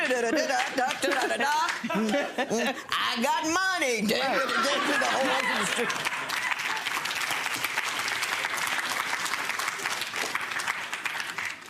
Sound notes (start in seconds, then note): 4.4 audience applause